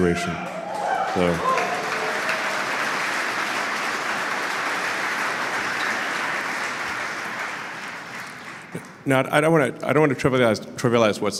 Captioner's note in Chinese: Applause; 掌声